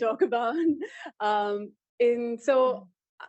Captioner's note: laughter